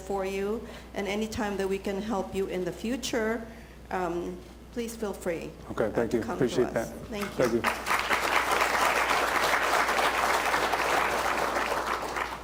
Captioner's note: applause